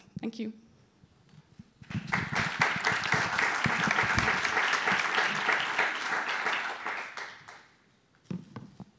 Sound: applause

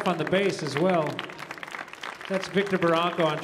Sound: audience applauding

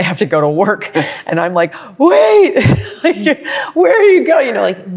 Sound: laughs

